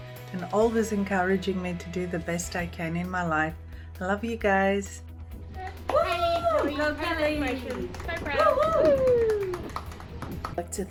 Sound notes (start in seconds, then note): 5.6 all cheering